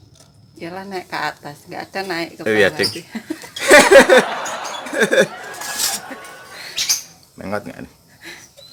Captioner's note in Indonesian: tertawa bercanda